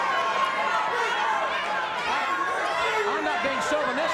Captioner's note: audience cheers